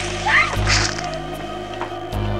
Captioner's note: window rolling up; squish